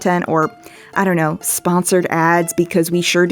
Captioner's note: none